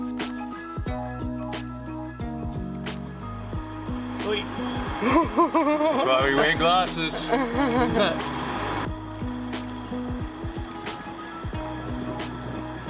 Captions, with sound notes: Oi, (laughs) that's why we wear glasses. (laughter) (mellow music)